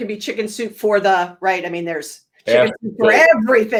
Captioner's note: laughs